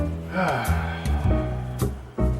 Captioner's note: sighs